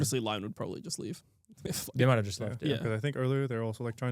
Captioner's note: chuckles